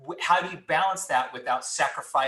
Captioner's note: none